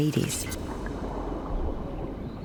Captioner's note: wind